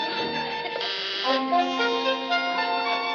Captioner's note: intercom buzzes